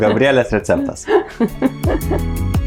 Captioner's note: laughs in Lithuanian